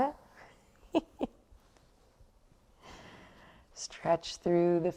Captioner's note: laughs